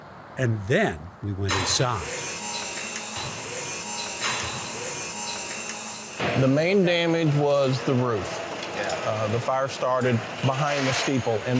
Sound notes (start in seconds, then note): 1.5 tools whirring